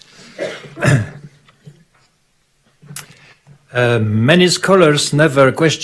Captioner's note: speaking in foreign language; clears throat